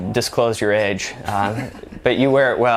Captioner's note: laughs